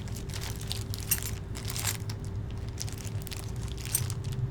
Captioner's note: keys jingling